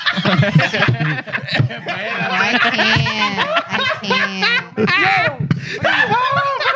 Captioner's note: laughing; speaking Foreign Language